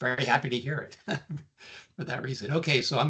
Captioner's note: chuckling